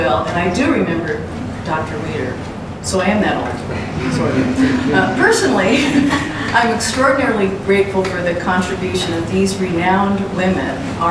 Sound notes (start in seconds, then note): 6.1 laughs